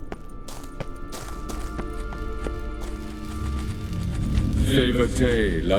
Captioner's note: faint humming